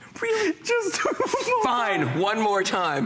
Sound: laughter

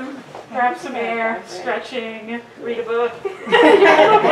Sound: audience laughter and applause

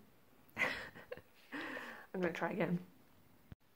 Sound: laughs

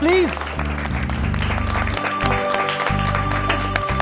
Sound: applause

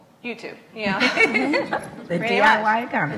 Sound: laughs

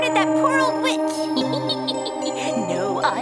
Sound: witch cackles

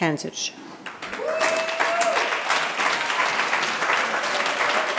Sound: audience applauding

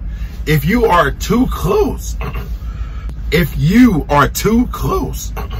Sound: coughs; coughs

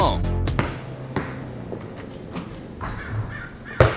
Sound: dribbling sounds

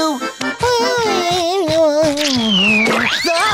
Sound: humming

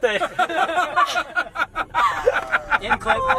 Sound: all laughing

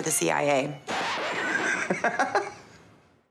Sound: laughs

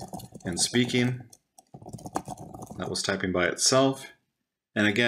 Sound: typing by itself

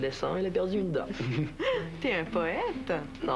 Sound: Rires

